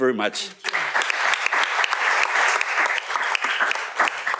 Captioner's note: applause